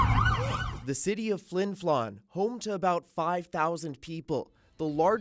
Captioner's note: sirens